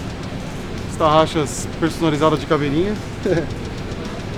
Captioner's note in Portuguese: risos